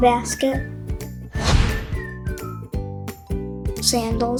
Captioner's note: screen whooshes